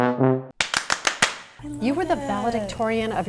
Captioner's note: hands clapping